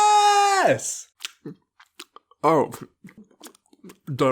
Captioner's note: chewing sounds